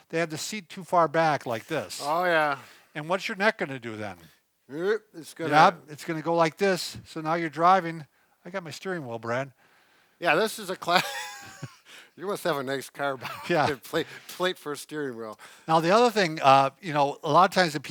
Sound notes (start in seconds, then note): 10.9 laughs